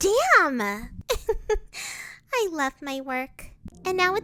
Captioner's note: giggles